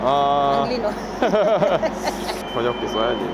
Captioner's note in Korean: 같이 웃음